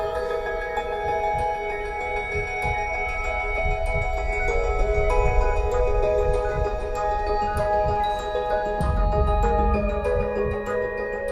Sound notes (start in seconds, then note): 0.2 soft ambient music; 6.3 beeping